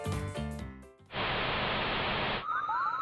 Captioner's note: static